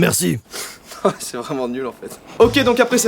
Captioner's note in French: Rigole